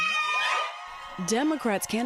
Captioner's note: cheering and applause